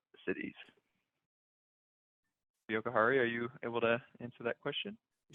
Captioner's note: audio cuts out